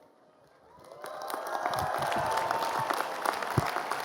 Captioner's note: cheering and applause